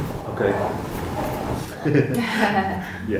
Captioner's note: laughs